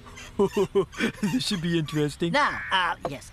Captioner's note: laughing